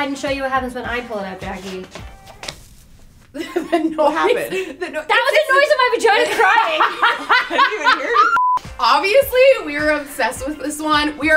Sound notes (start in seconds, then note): 3.3 woman laughing; 8.3 beeping sound